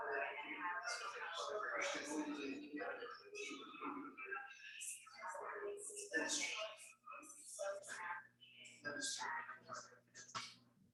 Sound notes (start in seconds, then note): 2.6 people chattering indistinctly continues